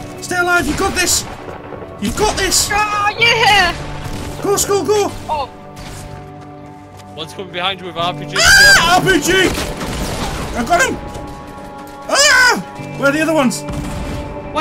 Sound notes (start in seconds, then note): 8.3 screams; 12.1 screams